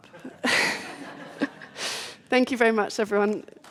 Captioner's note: audience laughs